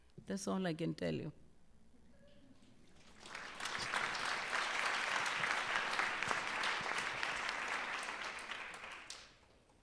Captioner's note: applause